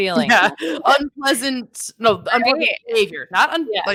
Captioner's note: speaking faintly